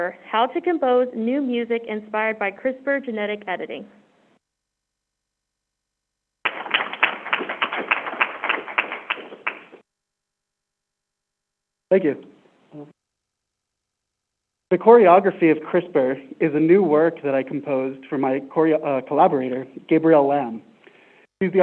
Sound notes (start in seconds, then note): 6.4 crowd applauding